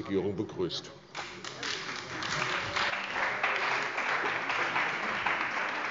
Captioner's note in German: Beifall bei der CDU und dem BÜNDNIS 90/DIE GRÜNEN